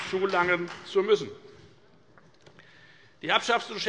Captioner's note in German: Beifall bei der FDP